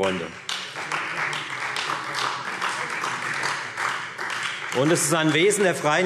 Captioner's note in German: Beifall